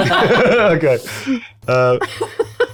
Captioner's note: cast laughs